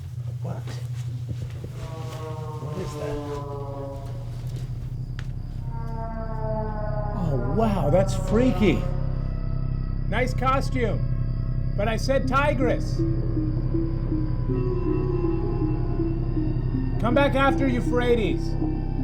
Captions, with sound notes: What? What is that? [ EERIE NOISE CONTINUES ] Oh wow that's freaky! Nice costume! But I said Tigris! [ CREEPY MUSIC PLAYS ] Come back after Euphrates!